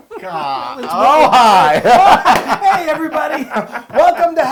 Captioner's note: laugh